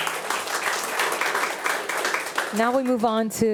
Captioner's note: attendees applauding